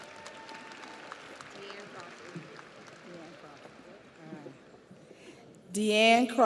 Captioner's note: audience cheers; audience applauds